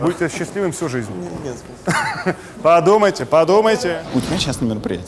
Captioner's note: chuckles